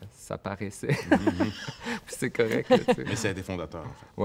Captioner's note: laughs